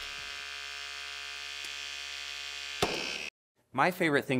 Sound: mechanical whirring

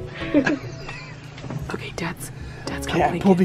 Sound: laughs

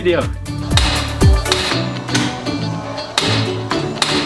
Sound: lever clacking

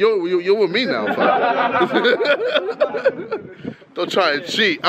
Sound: group laughs

